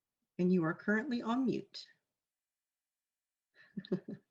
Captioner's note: laughs